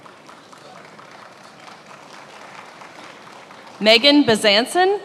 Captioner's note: attendees applauding